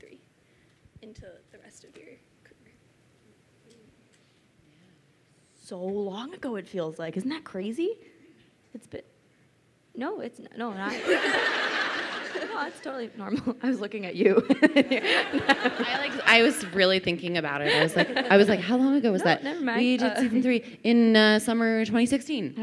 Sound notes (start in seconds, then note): 10.8 crowd laughing; 14.3 laughs